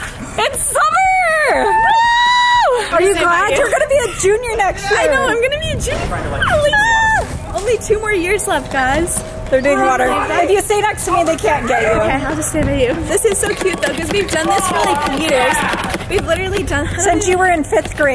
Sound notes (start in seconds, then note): 0.9 cheering; 6.3 happy screaming